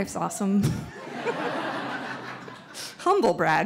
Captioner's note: audience laughs